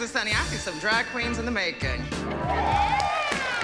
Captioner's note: laughing, whooping